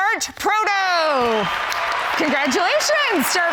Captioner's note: huge applause